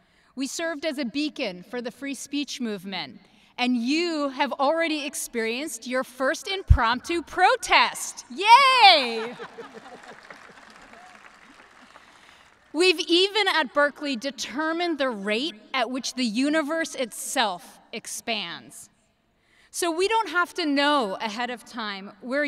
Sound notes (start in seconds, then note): 9.0 everyone laughing; 11.2 audience clapping